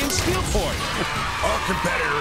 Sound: cheering

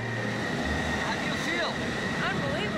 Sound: jet engines idling

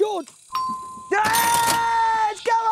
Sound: correct buzzer sounds; cheering

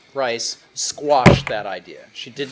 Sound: bangs hand on desk

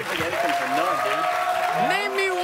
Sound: applause

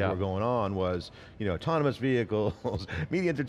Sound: laughs

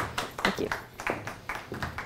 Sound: applause

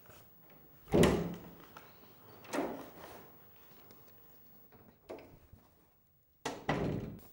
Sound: door opens in and shuts

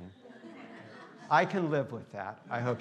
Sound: students laughing

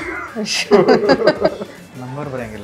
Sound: laughing

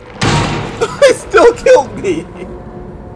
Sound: laughs

